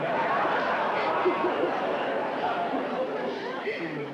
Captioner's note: laughter